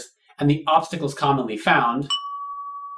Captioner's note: ding!